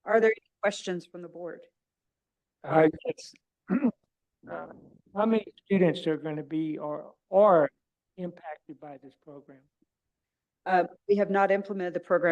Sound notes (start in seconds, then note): 3.6 clears throat